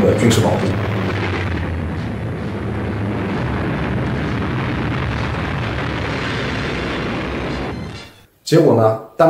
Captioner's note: sound of airplanes